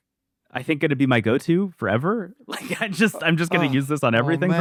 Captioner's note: laughs